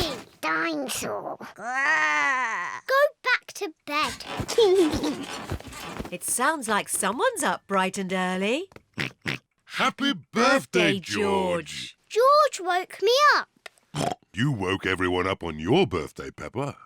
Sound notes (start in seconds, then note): 1.5 growls; 4.5 laughs; 9.0 oinks; 14.0 oinks